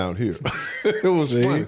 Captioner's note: Eric laughs